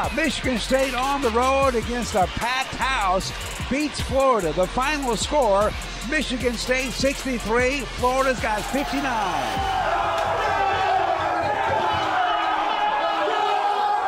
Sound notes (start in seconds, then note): 9.9 cheers